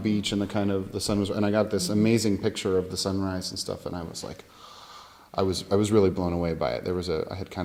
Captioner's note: gasp